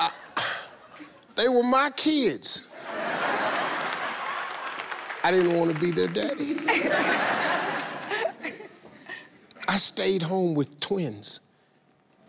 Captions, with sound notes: - They were my kids. (audience laughs) I didn't wanna be their daddy. (all laughing) I stayed home with twins.